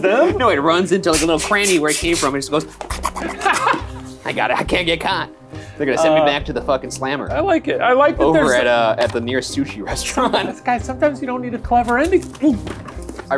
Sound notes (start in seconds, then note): 2.7 tapping